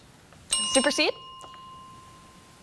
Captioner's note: bell dinging